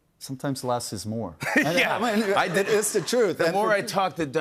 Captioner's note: laughs